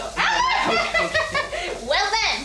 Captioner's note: chuckles